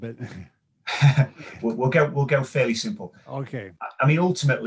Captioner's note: laughs